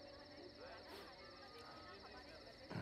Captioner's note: Sniffs